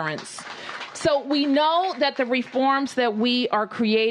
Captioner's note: applause